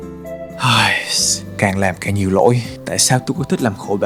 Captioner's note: sigh